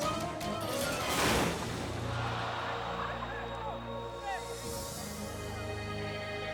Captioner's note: motorcycle thuds; audience gasps; dramatic music